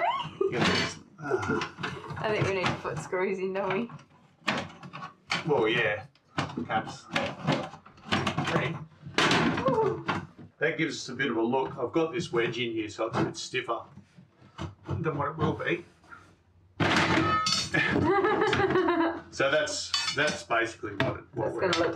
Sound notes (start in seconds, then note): 0.2 loud clattering; 1.2 laughs; 9.2 more clattering; 16.8 assorted items clattering loudly; 17.3 laughs